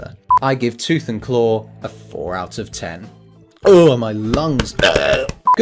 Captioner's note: groan